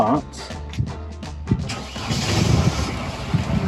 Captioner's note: engines starts